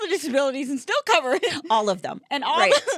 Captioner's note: laughing